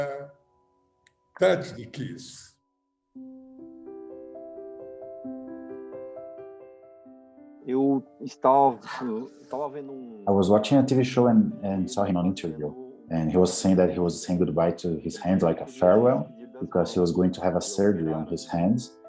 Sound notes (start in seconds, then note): 3.5 gentle music; 7.7 speaking in Portuguese